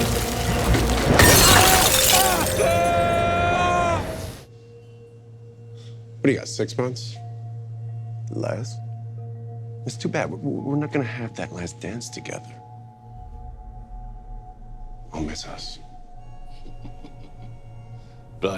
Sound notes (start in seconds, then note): 0.0 loud shattering; 1.4 Ezekiel screaming; 16.6 Billy chuckling